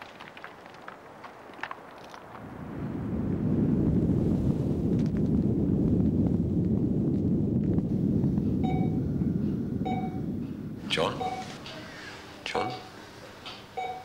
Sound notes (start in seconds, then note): 3.6 fire blazing; 11.0 beeps